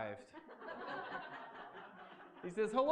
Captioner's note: laughter